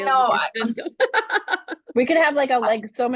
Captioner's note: laughter